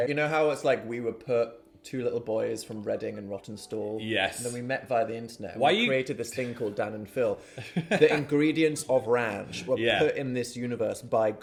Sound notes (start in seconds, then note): 7.5 chuckling